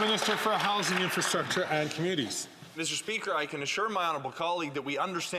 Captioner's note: some Applause